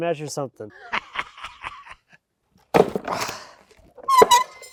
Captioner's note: laughing